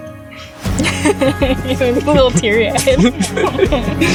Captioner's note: laughs